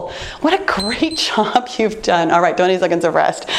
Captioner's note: timer beeps